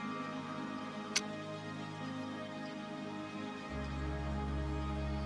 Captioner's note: camera clicks